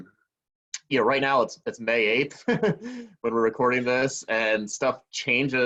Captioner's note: laughing